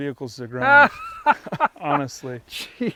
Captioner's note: laughing